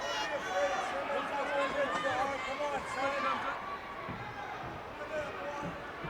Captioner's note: Stunning Steve Austin speaks faintly